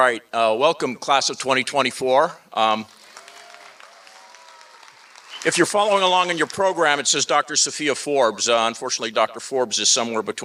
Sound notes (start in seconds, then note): 2.8 applause